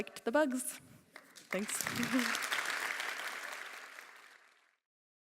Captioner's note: applause